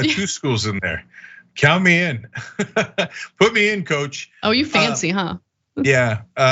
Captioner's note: laugh